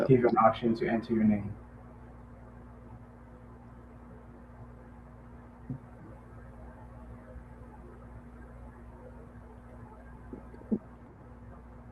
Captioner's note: pause